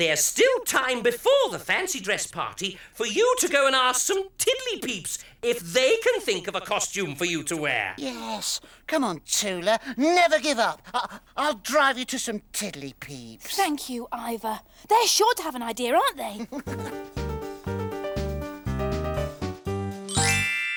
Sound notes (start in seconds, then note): 16.2 Iver laughs; 16.6 upbeat music